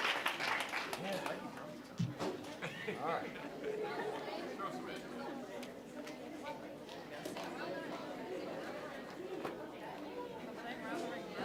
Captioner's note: applause; general chatter